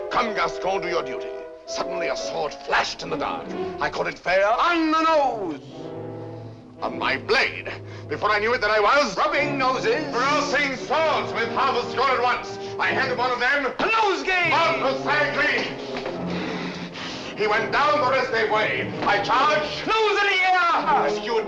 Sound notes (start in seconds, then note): 15.6 breathing heavily